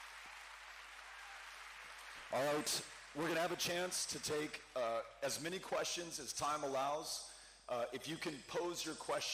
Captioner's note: cheering